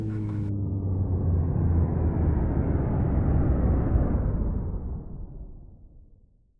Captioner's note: sound of a machine powering down